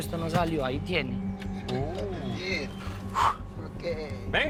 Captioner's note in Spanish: Exclamaciones